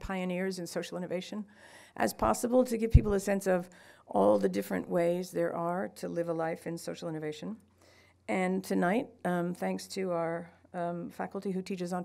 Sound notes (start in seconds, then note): none